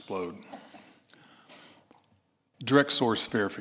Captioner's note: laughter